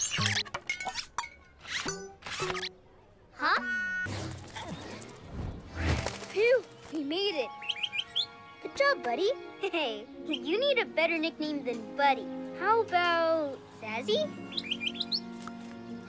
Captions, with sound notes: Phew, we made it. - (Chirps) - Good job, buddy! Hey, you need a better nickname than buddy. How about Zazi? (Chirps)